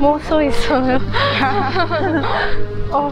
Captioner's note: Laughing